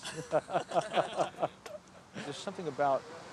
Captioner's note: group laughs